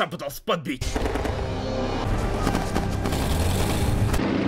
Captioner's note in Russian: слышны выстрелы и рычание мотора